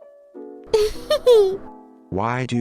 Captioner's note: laughing